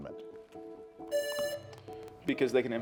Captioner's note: buzzer buzzing